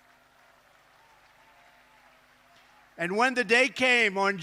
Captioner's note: applause